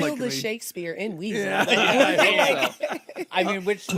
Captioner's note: all laugh